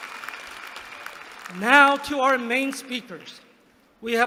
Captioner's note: applause